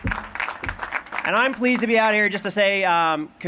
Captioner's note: applause